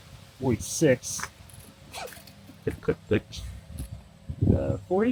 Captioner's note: laughing